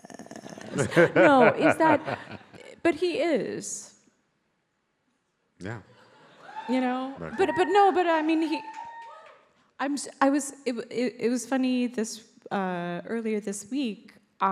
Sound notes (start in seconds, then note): 6.2 crowd cheers